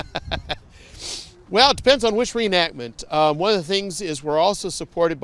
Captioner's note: laughs